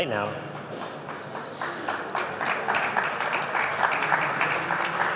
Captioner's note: applause